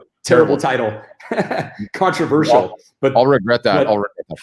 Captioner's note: laughs